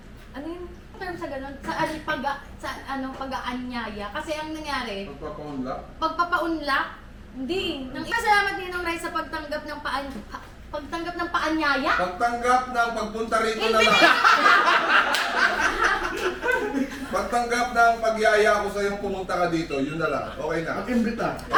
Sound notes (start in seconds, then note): 13.6 laughter